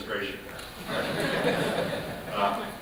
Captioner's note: laughter